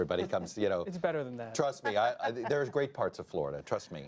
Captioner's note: laughter